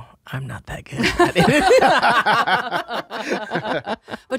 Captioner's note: they laugh